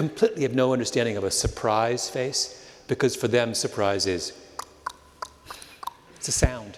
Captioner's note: clicking sound